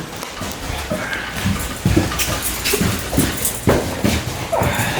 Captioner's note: footsteps